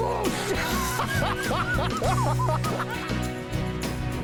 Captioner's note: laughter